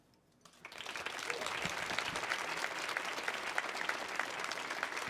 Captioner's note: audience applauding